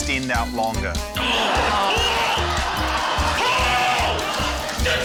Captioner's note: grunts; laughter